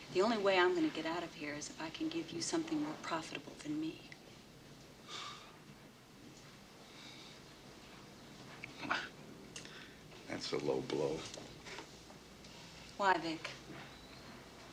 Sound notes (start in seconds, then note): 5.0 Vic exhales; 8.6 scoffs